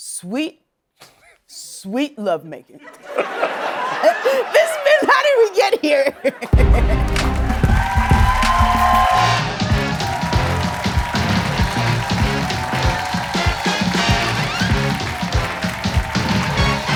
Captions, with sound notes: Sweet... sweet lovemaking. [laughing] This has been "How Did We Get Here?" [chuckling] [cheering and applause]